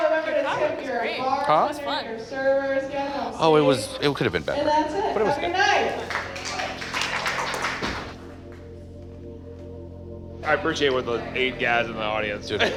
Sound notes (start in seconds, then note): 5.8 audience applauding; 8.2 gentle music; 12.5 laughs